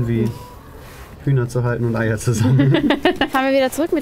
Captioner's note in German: Lachen